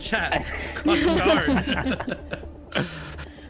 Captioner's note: laughs